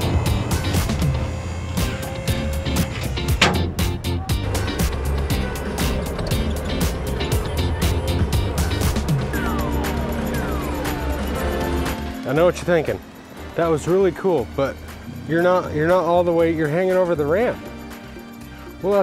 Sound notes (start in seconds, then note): 4.7 vehicle engine; 18.0 funky pop music